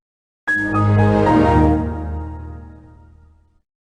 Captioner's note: Windows XP Shutdown